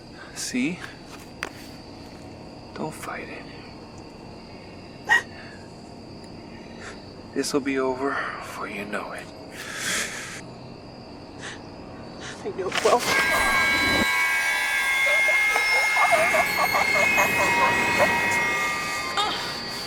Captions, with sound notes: Now, see. Don't fight it. This will be over before you know it. I know it will. [ Alvin struggling to breathe ]